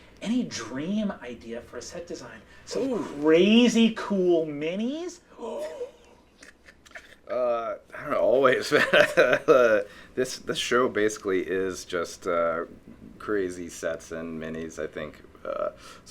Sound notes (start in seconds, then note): 5.2 gasping; 5.5 laughing